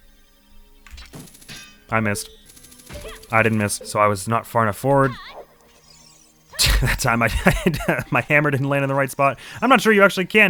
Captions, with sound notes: I missed. I didn't miss. So I was not far enough forward. *snickers* That time, I--I-- *laughs* My hammer didn't land in the right spot. I'm not sure you actually can